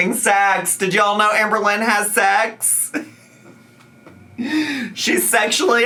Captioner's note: laughs